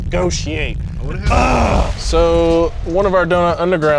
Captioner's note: groans